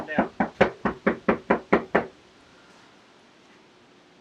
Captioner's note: knocks thud